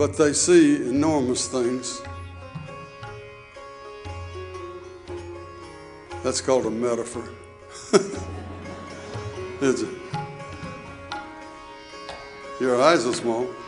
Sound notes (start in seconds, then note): 7.8 audience laughing; 7.9 laughs